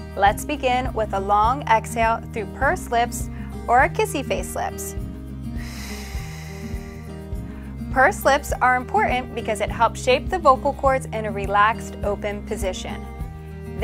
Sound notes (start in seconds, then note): 5.5 exhales